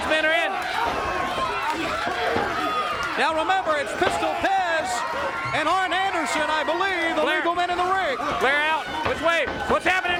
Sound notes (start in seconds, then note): 2.5 crowd chatter